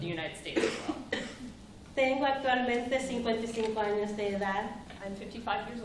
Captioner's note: speaking spanish